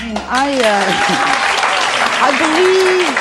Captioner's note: audience applauding